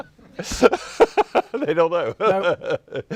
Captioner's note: laughs